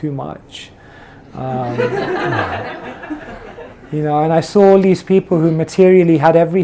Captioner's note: laughter